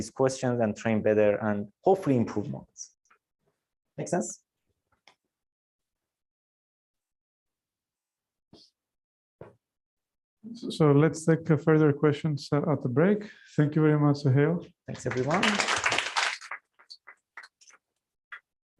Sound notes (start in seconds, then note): 14.9 applause